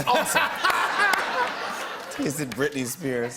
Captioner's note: laughter